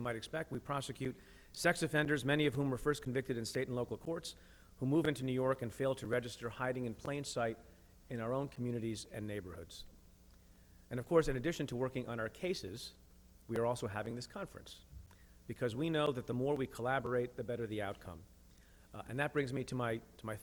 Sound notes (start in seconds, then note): none